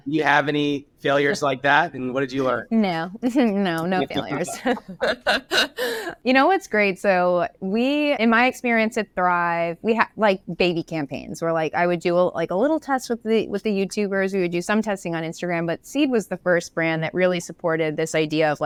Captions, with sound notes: - Do you have any failures like that, and what did you learn? - No, no, no failures. (laughs) You know what's great? So we, in my experience at Thrive, we had like baby campaigns where like I would do like a little test with the YouTubers. We would do some testing on Instagram. But Seed was the first brand that really supported this idea